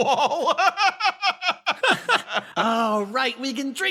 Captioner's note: laugh